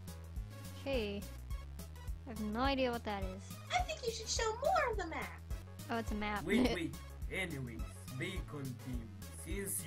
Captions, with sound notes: 'K, I have no idea what that is. Oh, it's a map. *Laughs*